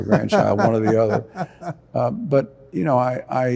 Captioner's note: chuckling